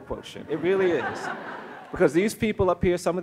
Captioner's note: audience laughs